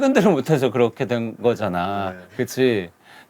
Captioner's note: choked up